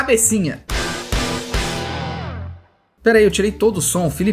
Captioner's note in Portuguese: som de destaque